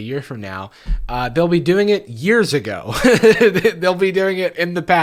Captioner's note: laughs